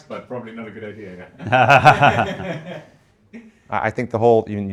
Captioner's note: laughing